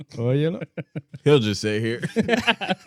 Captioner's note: laughing